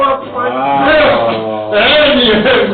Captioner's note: groans